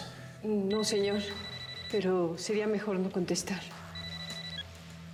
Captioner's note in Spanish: celular sonando